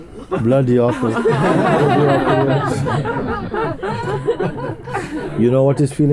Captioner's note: laughter